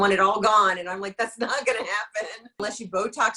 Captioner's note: laughs